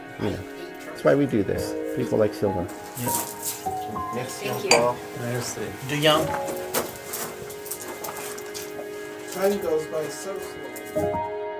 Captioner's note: sounds of exiting the cellar